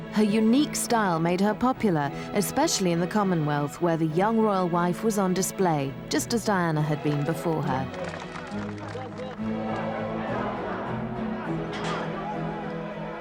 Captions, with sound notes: Her unique style made her popular, especially in the Commonwealth where the young royal wife was on display just as Diana had been before her. (crowd applauding) (crowd cheering)